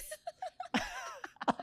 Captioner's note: laughs